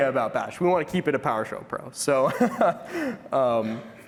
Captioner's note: laughter